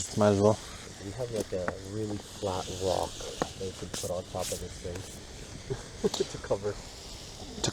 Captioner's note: laughs